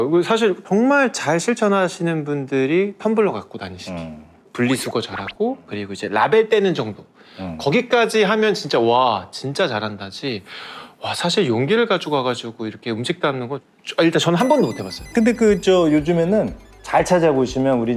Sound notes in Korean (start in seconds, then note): 14.4 밝은 음악; 14.4 익살스러운 효과음